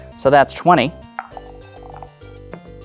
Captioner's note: dice rolling; dice rattling